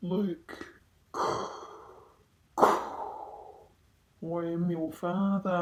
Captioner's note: breathes in, breathes out